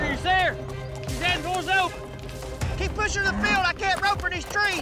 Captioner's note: shouts